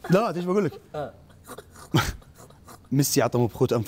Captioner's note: snort-laughing